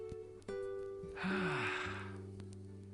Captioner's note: slowly exhales